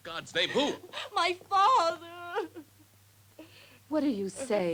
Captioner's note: sobs